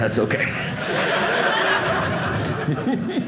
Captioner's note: audience laughing